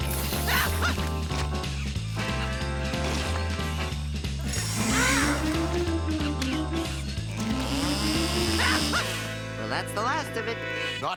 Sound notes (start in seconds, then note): 0.3 scream; 4.5 groan; 7.9 scream